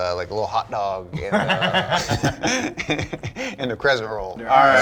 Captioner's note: laugh